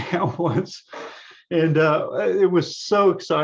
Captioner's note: laughs